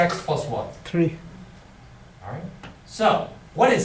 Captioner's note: voiceover